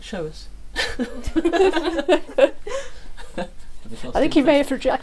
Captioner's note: laughing